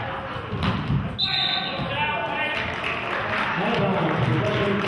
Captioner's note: whistle blows; clapping